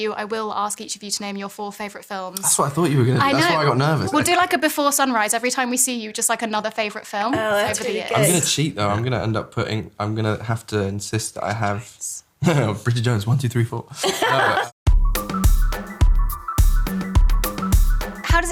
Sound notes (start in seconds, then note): 14.0 Renee laughs; 14.8 upbeat music